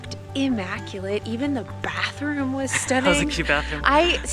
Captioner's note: giggles